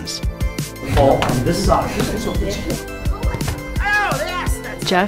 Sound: indistinct chatter

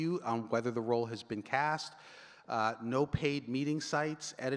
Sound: none

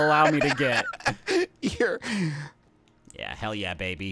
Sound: laughing

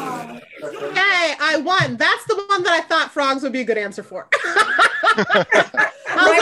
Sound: everyone laughs

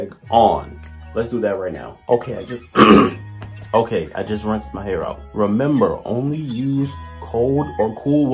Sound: clears throat

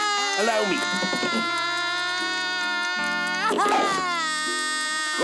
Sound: crying

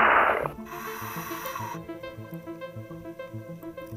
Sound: inhaling air

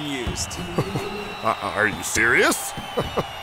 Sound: laughing

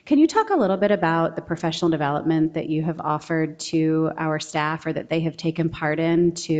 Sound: none

